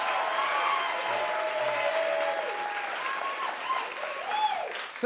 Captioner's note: cheers and applause continue